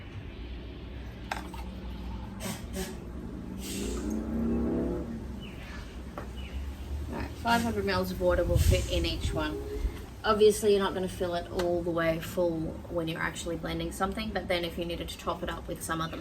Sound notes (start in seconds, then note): 0.8 water burbles; 2.3 SodaStream makes farting and sighing noises